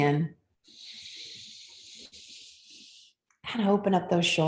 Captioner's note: deep inhale